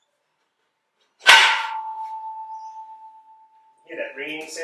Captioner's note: ring